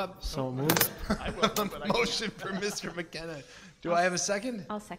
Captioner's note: laughs